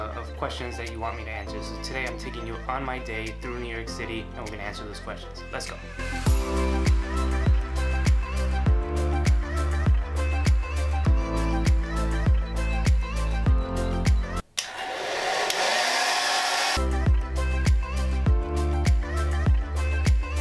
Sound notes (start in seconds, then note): 6.5 upbeat pop music; 14.5 blow dryer sounds; 16.4 upbeat pop music